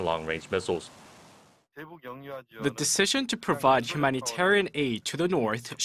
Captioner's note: Korean